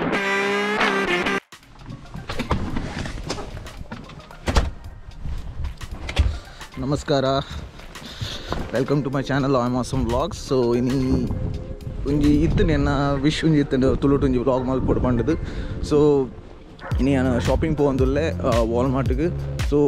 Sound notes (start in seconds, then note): 14.7 spoken in Mangalore